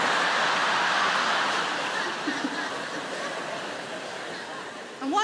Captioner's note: audience laughing